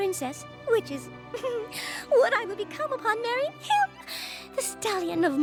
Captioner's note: giggles